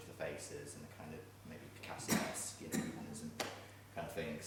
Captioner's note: coughing drowning out speech